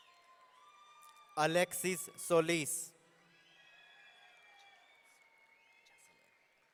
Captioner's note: audience cheering